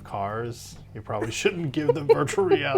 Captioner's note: laughs